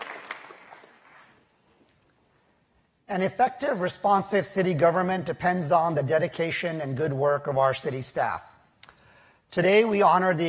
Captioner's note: applause